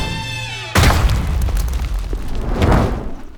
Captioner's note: crash!